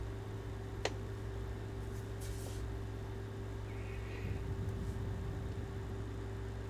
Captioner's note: air conditioner humming continues